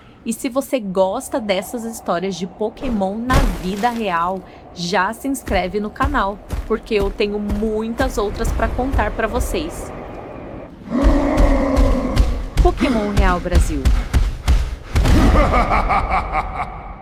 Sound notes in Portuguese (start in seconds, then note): 11.4 gemido; 15.1 risadas